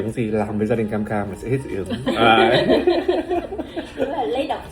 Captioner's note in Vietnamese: tiếng cười